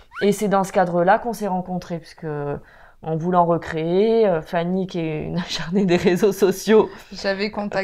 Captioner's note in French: rire